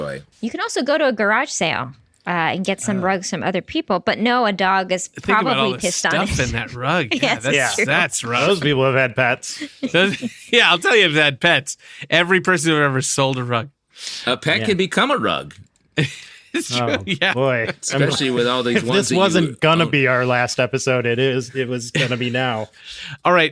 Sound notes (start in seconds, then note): 16.0 laughter